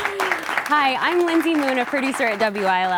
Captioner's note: applause